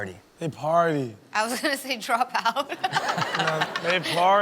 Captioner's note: laughs; audience laughing